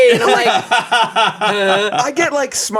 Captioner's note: everyone laughs